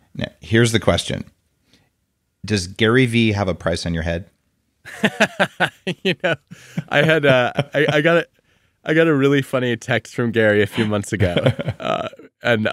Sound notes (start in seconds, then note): 4.9 laughing; 10.6 laughing